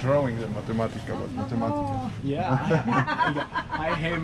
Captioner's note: laughter